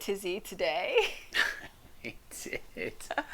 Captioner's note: laughs